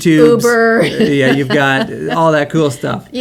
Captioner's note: laughs